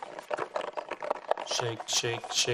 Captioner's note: foil balls rattling